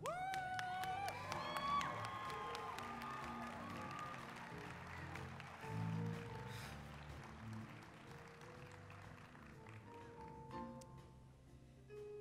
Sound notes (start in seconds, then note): 0.0 applause, cheering; 6.4 exhaling